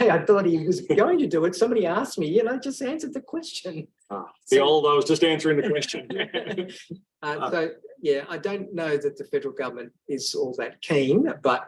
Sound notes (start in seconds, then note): 5.5 laughs